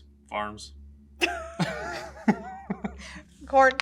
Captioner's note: laughs